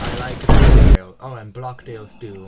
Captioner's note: vineboom.mp5